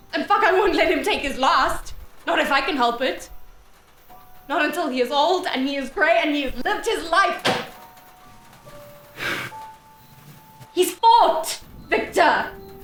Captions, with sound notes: And I won't let him take his last. Not if I can help it. Not until he is old, and he is grey, and he has lived his life. [Carrie slams countertop.] [Carrie sighs.] He's fought, Victor.